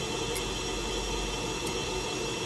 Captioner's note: Zippo® lighter clicks open, strikes